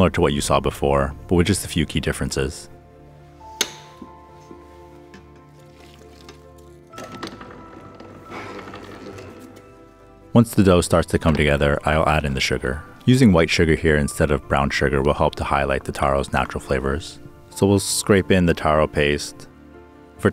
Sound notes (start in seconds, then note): 3.7 liquid pouring; 3.7 tranquil music; 7.0 machine whirring